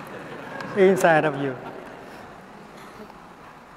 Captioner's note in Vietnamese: tiếng cười